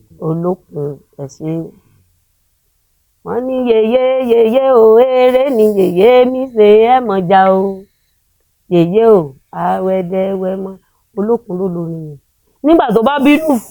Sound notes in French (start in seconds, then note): 3.2 chant